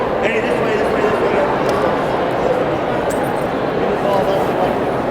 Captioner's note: indistinct crowd chatter